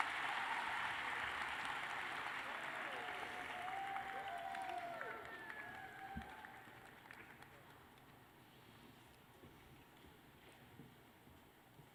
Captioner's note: cheers and applause